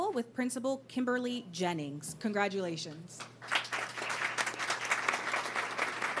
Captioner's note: applause